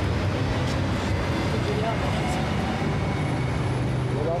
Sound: people chattering

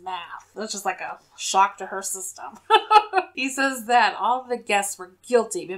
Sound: laughs

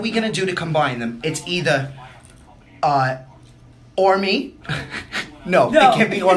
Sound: laughs

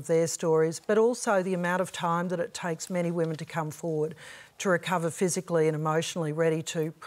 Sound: none

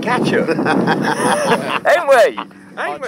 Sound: men laughing

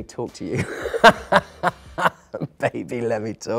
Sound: Phil laughs

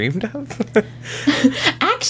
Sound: laughs

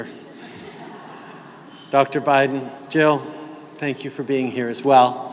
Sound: laughter

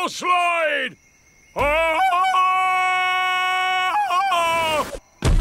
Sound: ululating

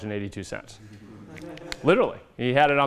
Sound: laughter

